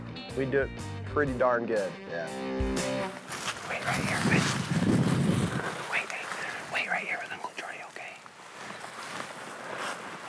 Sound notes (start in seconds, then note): 3.4 whispers